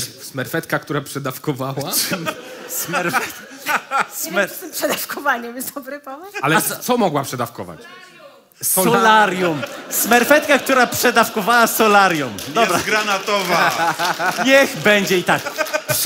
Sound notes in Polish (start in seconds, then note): 1.9 śmiech